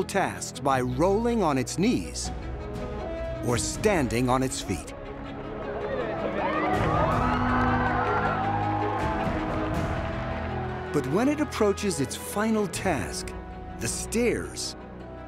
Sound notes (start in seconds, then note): 5.7 cheering